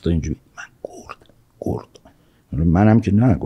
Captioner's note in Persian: با تلفظ بسیار آهسته